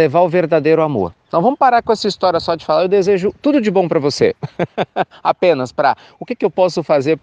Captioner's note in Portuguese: risos